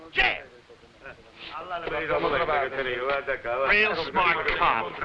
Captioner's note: officers conversing in foreign language